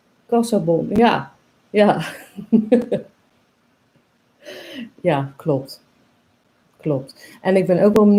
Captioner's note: laughs